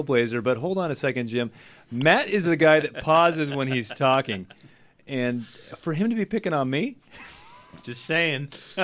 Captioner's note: laughs